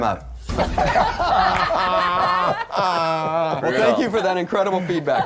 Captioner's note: everyone laughs